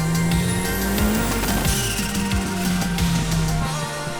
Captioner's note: car engine revving